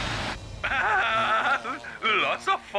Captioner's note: laughs